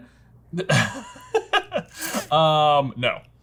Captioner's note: laughter